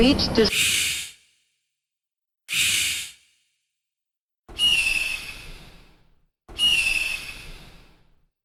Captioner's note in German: Druckluftbremsgeräusch